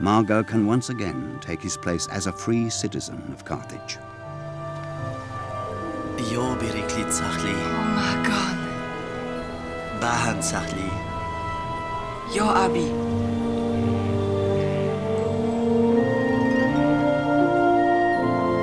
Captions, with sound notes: Mago can once again take his place as a free citizen of Carthage. (Mago speaking in foreign language) (Biricrit speaking in foreign language) (Mago speaking in foreign language) (youth speaking in foreign language) (wondrous music)